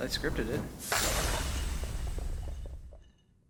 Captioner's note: crashes